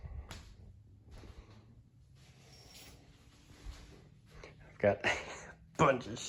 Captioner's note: footsteps